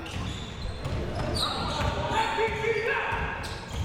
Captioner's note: ball pounding